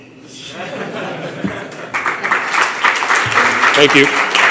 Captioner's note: laughter and applause